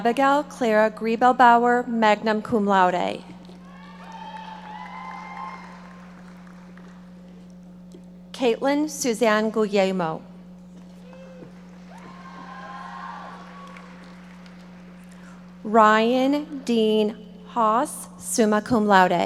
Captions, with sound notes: Abigail Clara Griebelbauer, magna cum laude. (audience members shouting) Kaela Susanne Guglielmo. (audience members shouting) Ryan Dean Haas, summa cum laude.